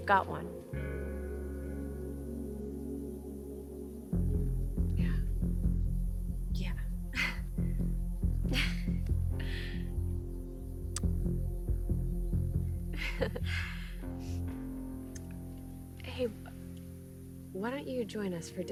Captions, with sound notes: - Yeah? (intense dramatic music) - Yeah. (both laughing) Hey, why don't you join us for dinner?